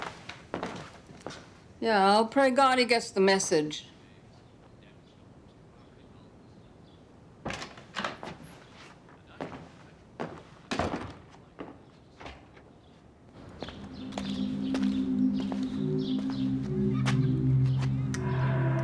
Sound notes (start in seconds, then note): 0.4 footsteps clomping; 7.7 door clicks; 9.4 footsteps clomping; 10.7 door thuds; 13.3 birds chirping; 13.4 tense music; 18.6 ominous music